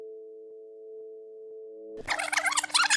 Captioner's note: tape rewinding